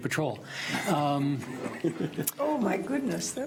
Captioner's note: audience laughs